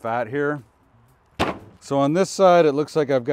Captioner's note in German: Bruststück dröhnt